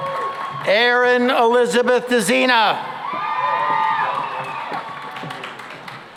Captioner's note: cheering and applause; cheering and applause